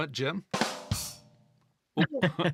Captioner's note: laughing